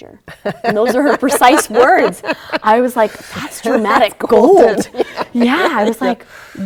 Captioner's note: laughter